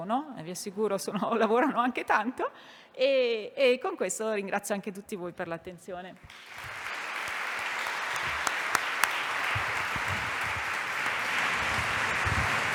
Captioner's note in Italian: Applauso